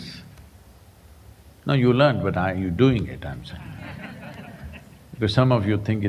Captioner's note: laughter